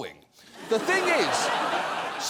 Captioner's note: audience laughs